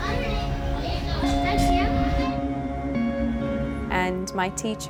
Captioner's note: children chattering